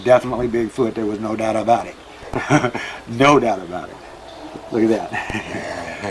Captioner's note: chuckles